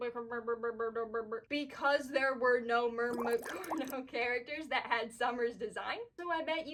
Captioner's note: bubbles